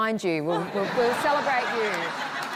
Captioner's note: laughter